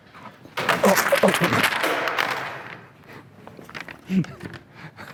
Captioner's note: calculator crashing